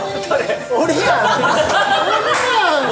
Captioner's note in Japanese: 笑い